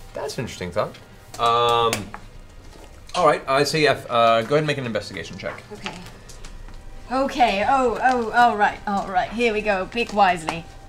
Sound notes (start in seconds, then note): none